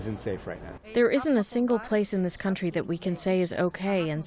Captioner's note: through translator